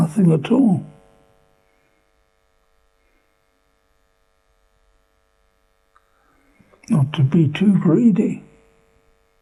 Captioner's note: pauses for 6 seconds